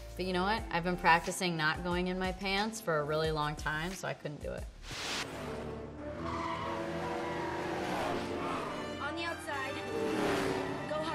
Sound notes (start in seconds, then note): 5.2 tires screeching; 5.3 race car engines rev